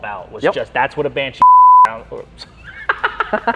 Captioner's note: beep; laughing